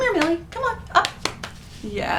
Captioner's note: slaps thighs